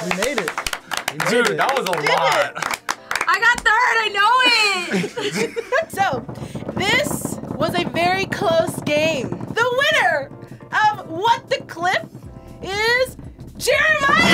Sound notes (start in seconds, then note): 4.4 group laughs